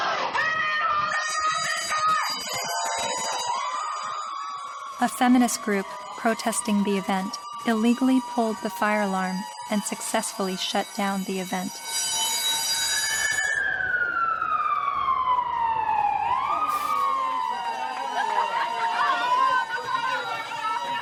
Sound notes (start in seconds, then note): 1.9 fire alarm rings; 3.1 cheering